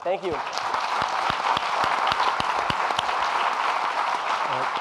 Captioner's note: audience applauding